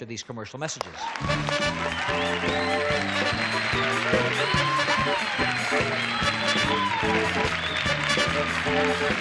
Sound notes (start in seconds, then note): 0.8 applause and cheering; 1.1 lively music